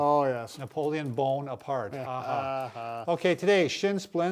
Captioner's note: sarcastically laughing